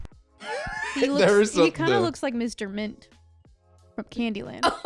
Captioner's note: laughs; laughs